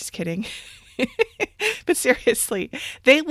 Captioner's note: laughs